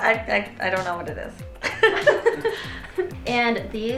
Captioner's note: laughing